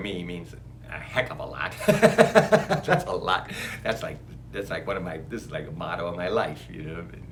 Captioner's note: laughing